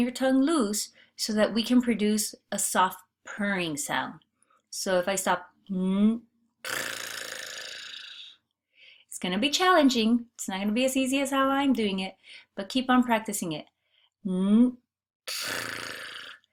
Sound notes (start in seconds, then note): 6.6 blowing air